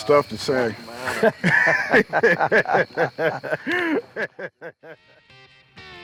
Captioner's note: laughing